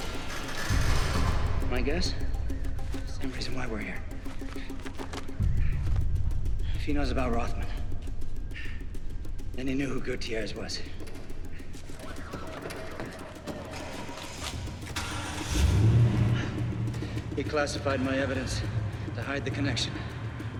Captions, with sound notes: My guess-- same reason why we're here. If he knows about Rothman, then he knew who Gutierrez was. (car doors opening) (engines starting) He classified my evidence to hide the connection.